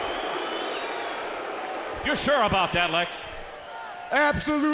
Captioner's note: crowd cheering